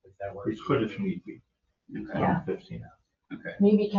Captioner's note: overlapping chatter